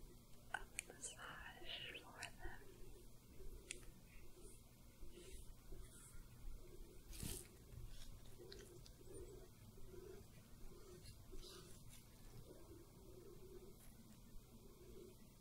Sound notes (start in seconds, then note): 4.5 soft brushing, sticky sounds